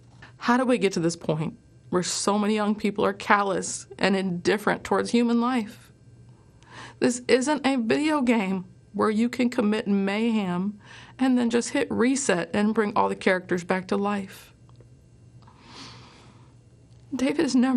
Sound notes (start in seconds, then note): none